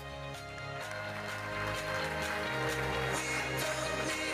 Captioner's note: audience applauding